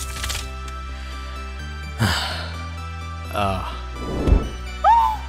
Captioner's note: inhale…exhale